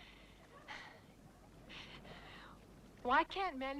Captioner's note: Hundra sighs